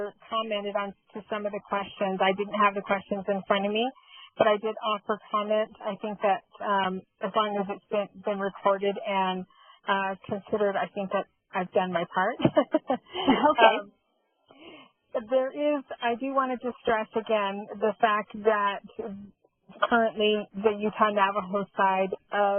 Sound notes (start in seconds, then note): 12.5 laughs